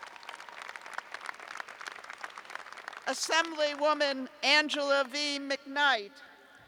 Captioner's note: applause